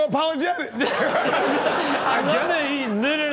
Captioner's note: all laughing